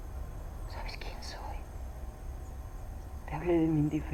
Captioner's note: birds chirping